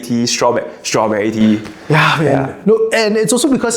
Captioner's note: sigh of bliss